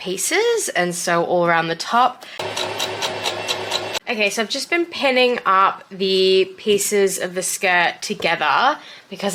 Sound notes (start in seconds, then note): 2.4 sewing machine churns